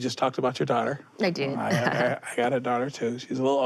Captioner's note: Malia laughs